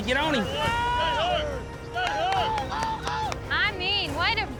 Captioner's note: all shouting